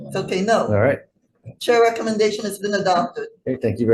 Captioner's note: none